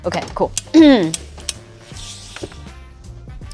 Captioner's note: clears throat